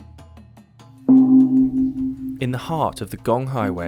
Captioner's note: gong sounds